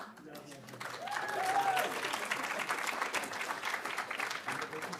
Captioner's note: audience applauding